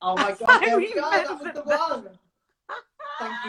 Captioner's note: laughs